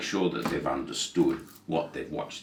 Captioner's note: hand thudding